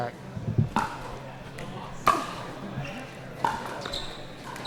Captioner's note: ball clacking